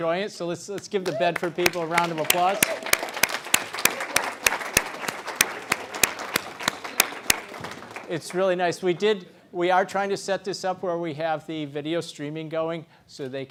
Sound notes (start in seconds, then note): 6.4 applause